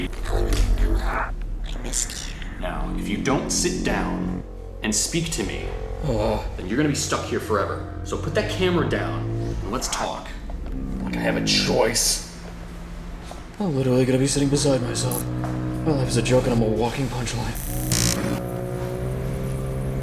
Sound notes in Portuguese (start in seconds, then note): 11.0 com raiva; 17.5 Breve e pesada distorção de áudio